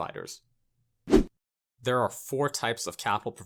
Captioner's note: graphic whooshes